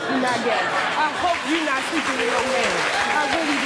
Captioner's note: audience laughing, applauding